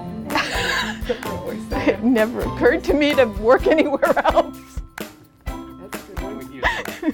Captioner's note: laughs